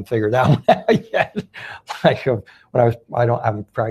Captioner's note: laughing